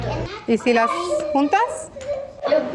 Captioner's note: in Spanish